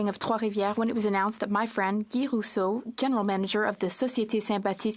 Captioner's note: speaking French